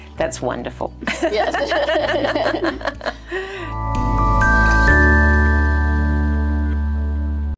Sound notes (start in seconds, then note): 1.2 everyone laughing; 3.9 gentle music